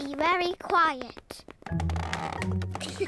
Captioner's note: floorboards creak; all giggle